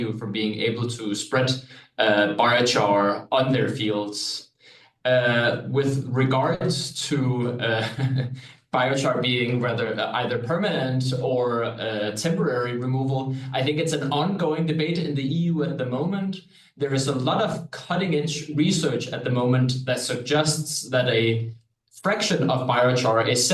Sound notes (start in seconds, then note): 7.3 chuckles